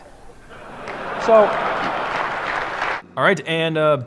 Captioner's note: audience laughing and applauding